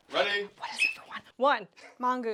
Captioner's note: whispering